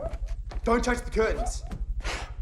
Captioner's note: flip continues barking